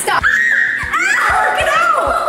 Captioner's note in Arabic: تصرخ